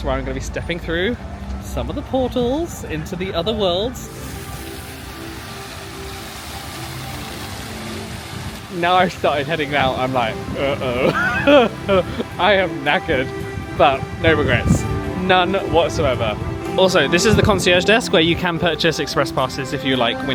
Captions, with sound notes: where I'm gonna be stepping through some of the portals into the other worlds. (water splashing) Now I've started heading out, I'm like uh-oh, I am knackered. But no regrets, none whatsoever. Also this is the concierge desk where you can purchase express passes if you like